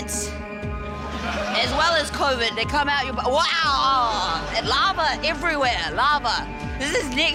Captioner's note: exclaims